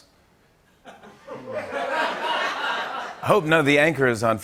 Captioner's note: laughter